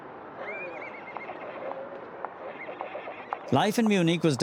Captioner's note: horse whinnies